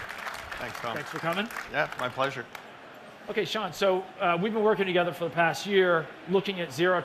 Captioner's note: applause